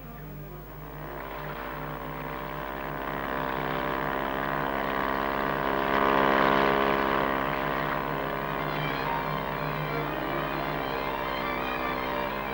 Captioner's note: sound of a Jet boat passing